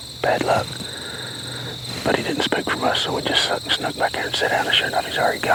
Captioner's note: whispering